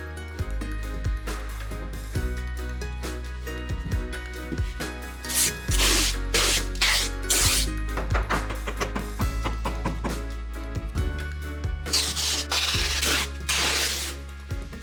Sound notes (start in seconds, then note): 0.3 upbeat music; 5.2 tape ripping; 8.0 hammer pounding; 11.9 tape ripping